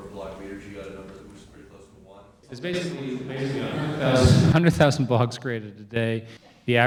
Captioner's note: all laugh